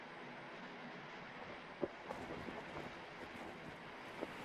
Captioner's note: wind blowing